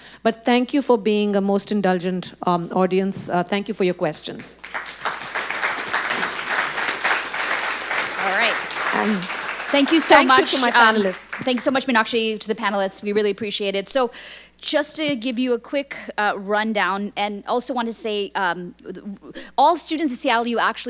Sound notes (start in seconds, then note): 4.3 audience clapping